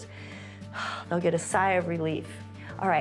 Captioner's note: exhales